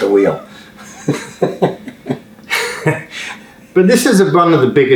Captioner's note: laughing